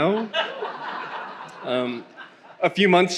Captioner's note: attendees laughing